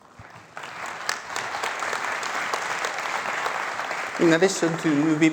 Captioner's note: applause